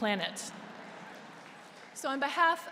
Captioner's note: applause